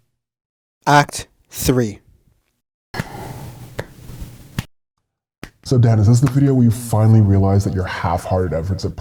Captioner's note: slow clap begins during the title card